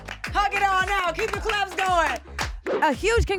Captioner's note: applauding